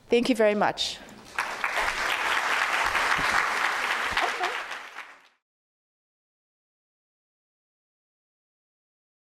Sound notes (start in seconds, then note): 1.2 audience applauding